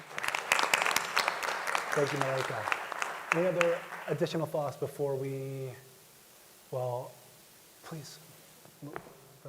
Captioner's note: applause